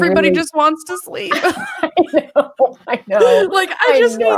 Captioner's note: laughs